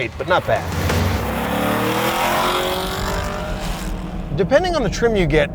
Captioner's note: engine revving